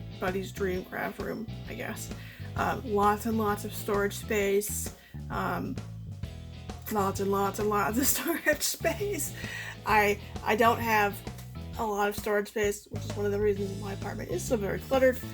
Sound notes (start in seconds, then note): 8.8 laughs